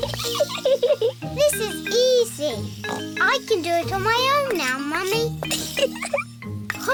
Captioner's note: giggles; snorts; giggles